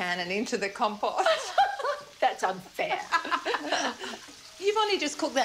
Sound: laughs

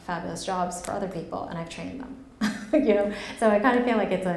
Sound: laughs

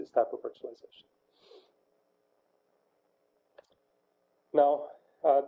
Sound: pause

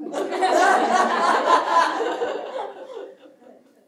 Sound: laughter

